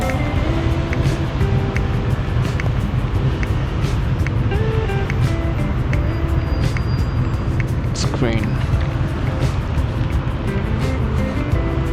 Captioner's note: wind Blowing